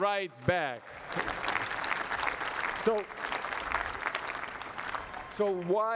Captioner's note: applause